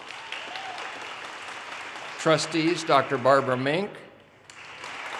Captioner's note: audience cheers and applause